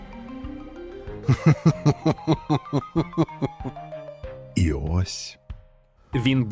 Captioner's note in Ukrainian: злий сміх